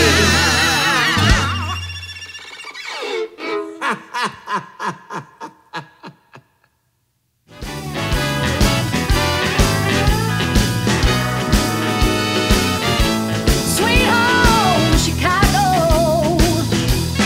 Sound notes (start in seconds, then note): 2.8 violin solo; 4.1 laughing